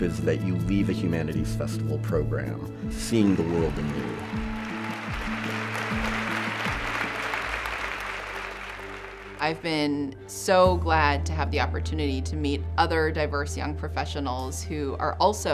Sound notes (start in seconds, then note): 5.0 cheers-- applause--conversation